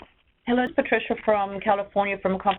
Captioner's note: voiceover